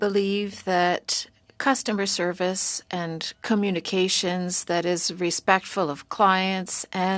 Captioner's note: speaking French